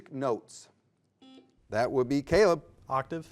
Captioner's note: buzzer beeps